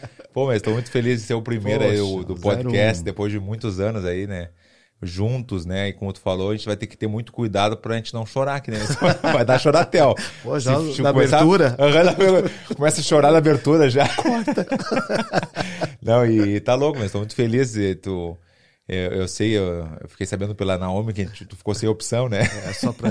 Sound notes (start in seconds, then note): 14.0 laughing